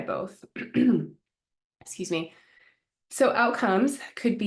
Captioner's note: clears throat